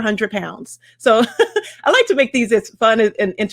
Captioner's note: laughs